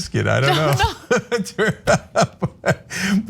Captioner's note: laugh